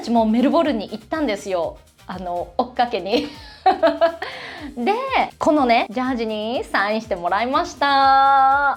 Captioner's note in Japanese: 笑い